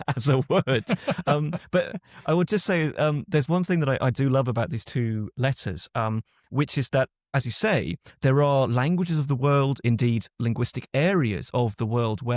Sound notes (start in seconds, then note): 0.0 laughs; 0.0 chuckles